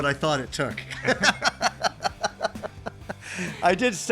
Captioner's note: laughter